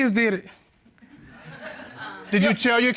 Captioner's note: audience laughs